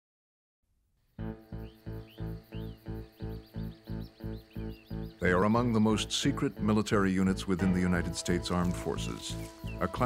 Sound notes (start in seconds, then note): 5.2 voiceover